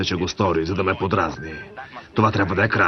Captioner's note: communicator beeps